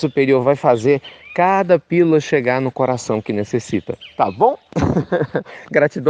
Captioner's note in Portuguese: risos